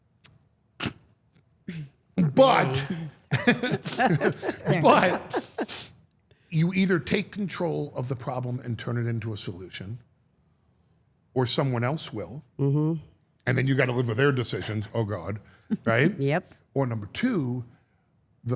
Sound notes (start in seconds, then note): 2.4 laughs